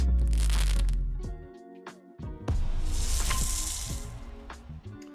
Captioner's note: chill music; electricity crackling